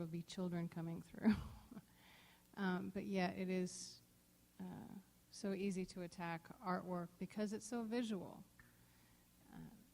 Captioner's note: chuckle